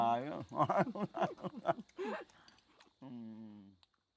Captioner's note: both laughing